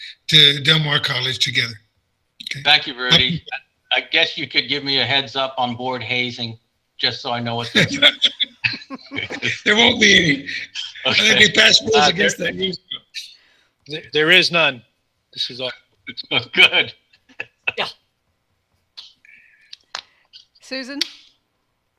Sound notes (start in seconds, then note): 7.6 all laughing; 11.3 laughing; 16.1 laughing